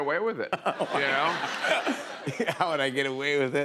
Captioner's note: laughter